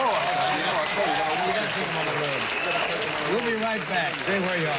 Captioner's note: audience cheering drowns out speakers